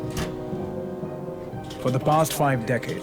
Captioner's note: typewriter sounds